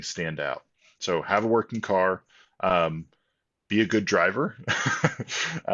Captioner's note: laughs